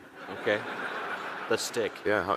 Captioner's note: audience laughing